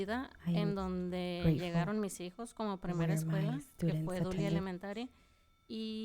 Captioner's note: panelist speaking in Spanish